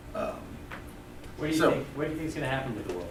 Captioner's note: voiceover